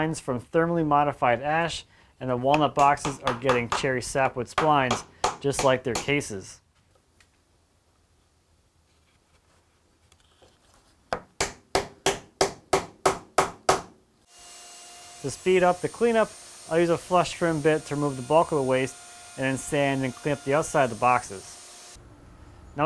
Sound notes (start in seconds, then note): 11.4 hammer pounding